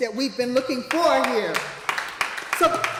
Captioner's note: applause